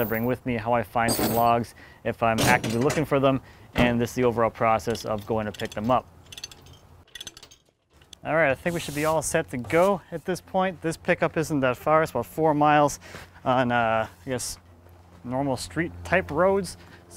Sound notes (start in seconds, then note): 1.1 chains rattling; 2.4 clanking; 3.3 door slamming; 4.7 ratcheting; 8.6 sweeping